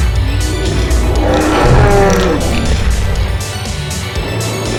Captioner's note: dinosaur roar